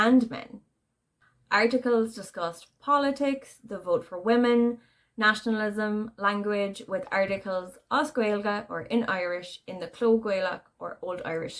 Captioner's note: in Irish